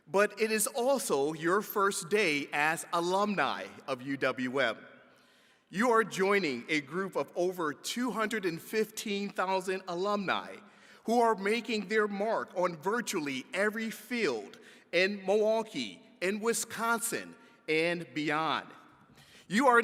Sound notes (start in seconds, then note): none